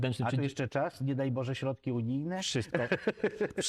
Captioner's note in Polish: śmiech